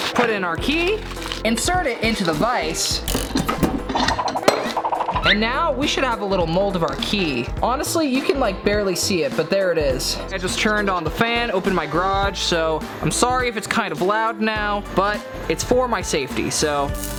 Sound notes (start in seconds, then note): 3.2 vice whooshing